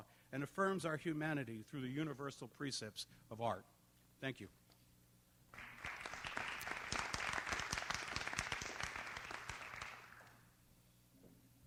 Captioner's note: applause